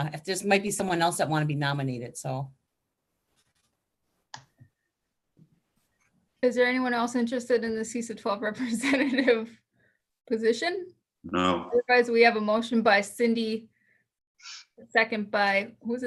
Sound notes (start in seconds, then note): 10.0 chuckles